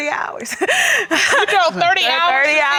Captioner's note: laughs